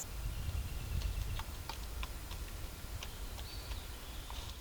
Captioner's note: bird footsteps